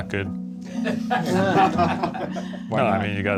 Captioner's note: laughter